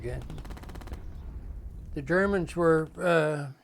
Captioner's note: gunshots firing